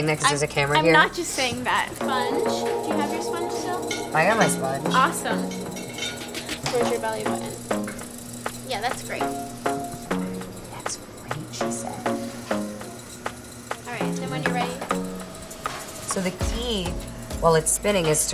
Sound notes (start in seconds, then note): none